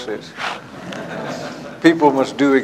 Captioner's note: laughter